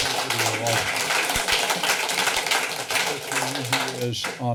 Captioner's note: applause